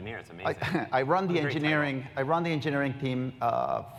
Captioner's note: laugh